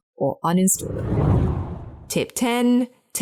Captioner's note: air whooshing